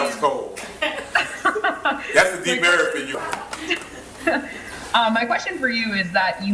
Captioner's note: laughter